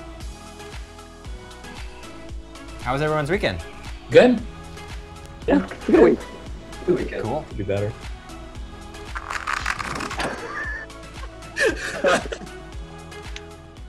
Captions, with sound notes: How was everyone's weekend? - Good. - Yeah, good weekend. - Could be better. (cards shuffling) (all laughing)